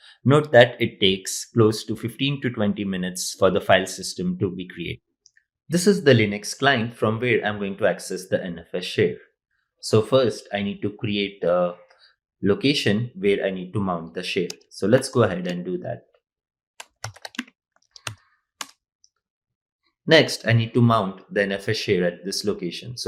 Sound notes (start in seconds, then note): 16.8 keystrokes clicking